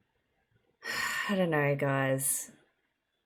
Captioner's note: sighs